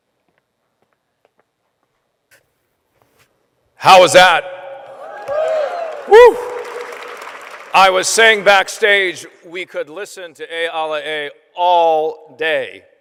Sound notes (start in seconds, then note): 4.9 applause